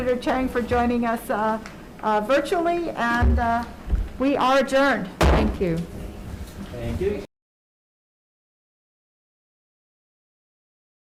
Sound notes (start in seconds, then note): 5.2 gavel bangs